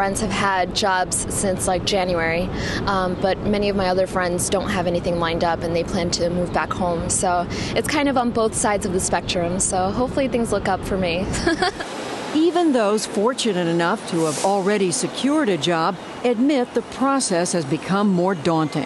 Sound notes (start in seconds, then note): 11.3 laughter